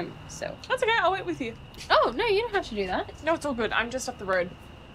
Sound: none

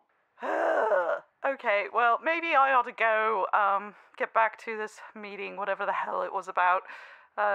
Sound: sighs heavily

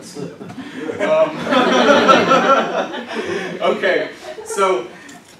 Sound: laughter

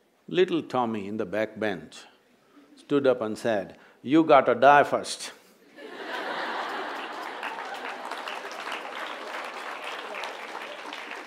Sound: laughter/Applause

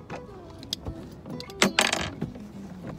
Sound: metal clatters

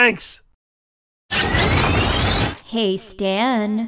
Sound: science fiction noise

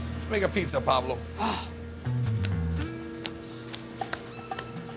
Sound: sighing

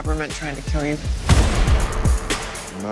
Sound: explosion

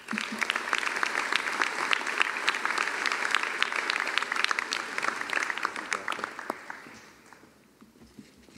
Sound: applause

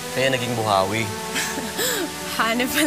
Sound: chuckles

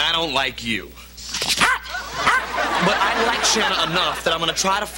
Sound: arf arf

